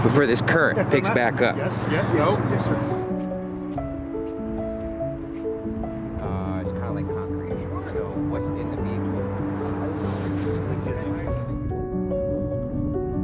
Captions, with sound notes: before this current picks back up. (gentle piano music) (indistinct conversation) (gentle piano music)